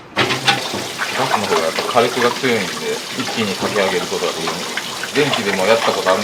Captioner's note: kettle